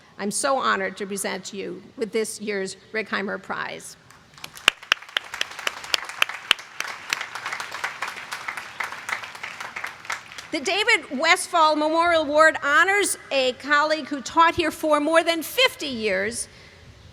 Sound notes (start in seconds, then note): 4.0 applause